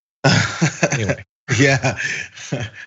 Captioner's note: laugh